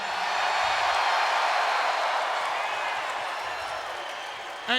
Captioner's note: crowd cheering